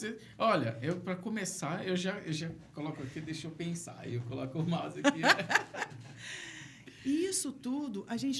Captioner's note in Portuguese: risadas